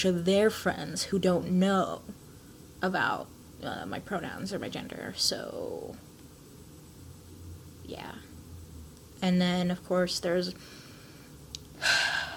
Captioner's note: sighs